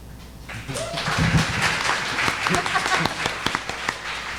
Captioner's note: audience applauding